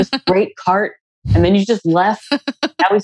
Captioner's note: laughs